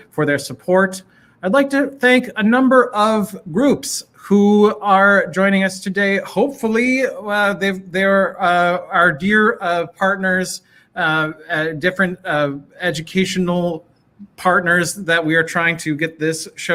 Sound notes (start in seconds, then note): none